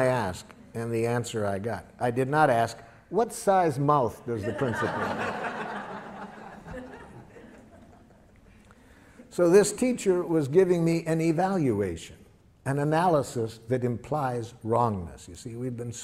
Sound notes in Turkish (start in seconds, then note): 7.4 Gülüşmeler